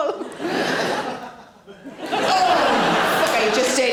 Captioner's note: audience laughing